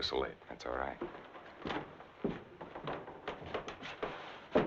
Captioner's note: footsteps thumping